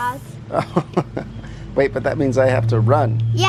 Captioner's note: laughs